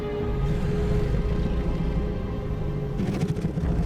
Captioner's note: soft growling; serene music playing